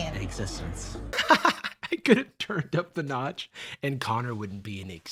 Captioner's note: laughs